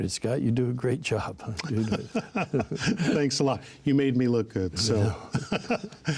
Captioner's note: laughing